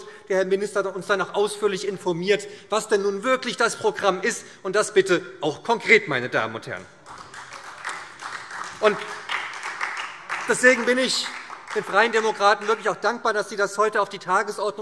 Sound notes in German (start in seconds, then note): 7.0 Beifall